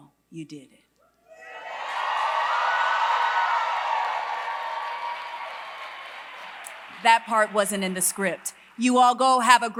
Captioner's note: applause